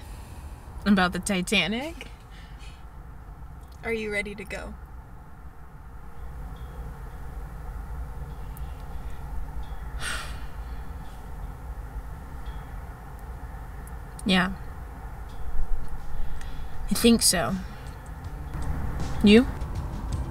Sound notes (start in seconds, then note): 10.0 exhales